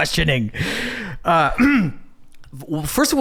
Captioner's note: clears throat